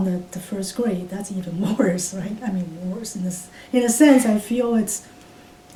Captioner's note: laughs